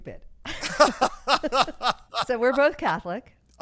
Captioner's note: laughing